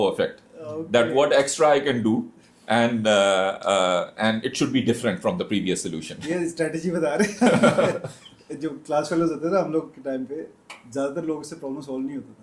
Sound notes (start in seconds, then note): 7.2 हंसी